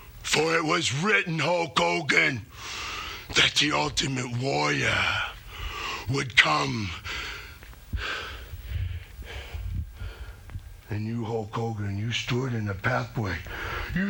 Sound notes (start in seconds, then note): 7.0 Ultimate Warrior breathing heavily